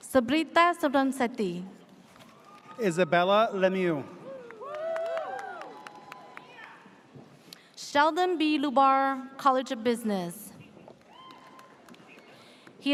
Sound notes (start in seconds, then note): 4.0 audience cheers; 11.0 audience cheers